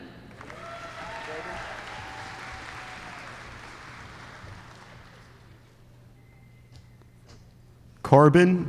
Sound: applause

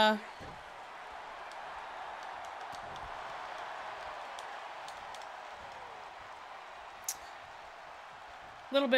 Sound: applause

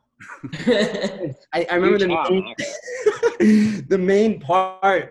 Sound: laughing

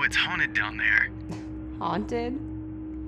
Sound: laughs

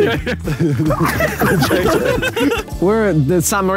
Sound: Sidemen laughing

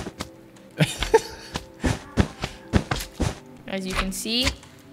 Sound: laughs

